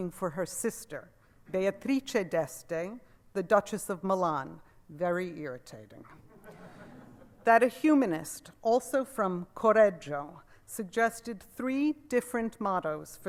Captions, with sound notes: for her sister Beatrice d'Este, the duchess of Milan. Very irritating. (laughter) That a humanist, also from Correggio, suggested three different mottos